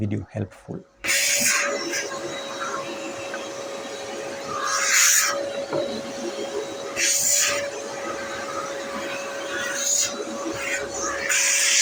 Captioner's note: vacuum cleaner noise